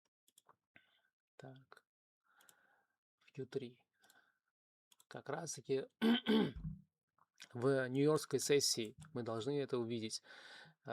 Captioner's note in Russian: откашливается